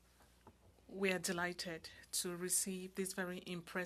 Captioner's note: speaking French